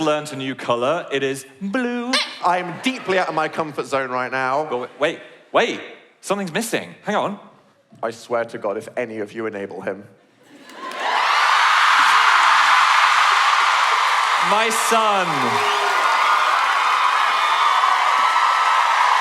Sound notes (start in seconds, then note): 12.8 audience cheers